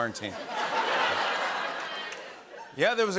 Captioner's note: laughter